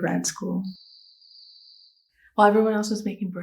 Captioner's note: cricket 🦗 sfx